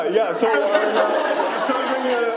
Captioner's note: laughter